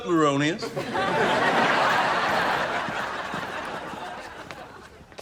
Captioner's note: audience laughs